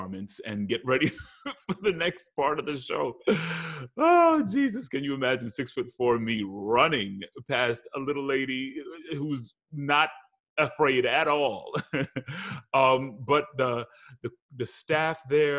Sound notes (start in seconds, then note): 11.7 laughs